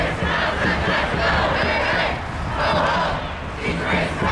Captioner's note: crowd